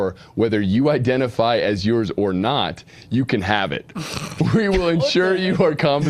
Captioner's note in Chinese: 笑声